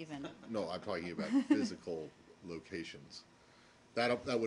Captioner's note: laughter